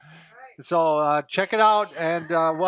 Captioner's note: cheers